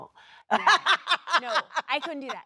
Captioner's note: Sheryl Lee laughs